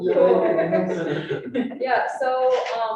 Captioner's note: all laughing